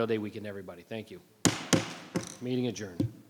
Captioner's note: gavel bangs